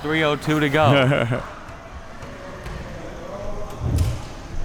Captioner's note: chuckles